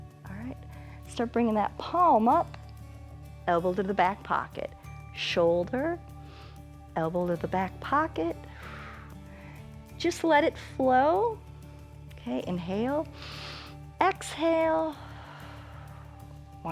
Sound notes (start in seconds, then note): 8.4 exhales; 13.1 exhales; 13.1 inhales